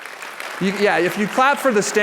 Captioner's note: applause